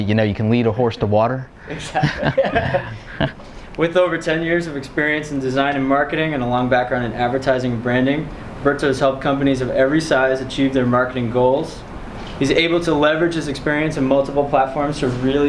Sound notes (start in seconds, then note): 1.7 laughing